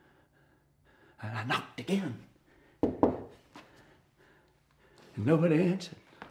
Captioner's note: knocking